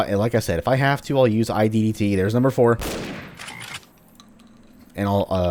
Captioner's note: bam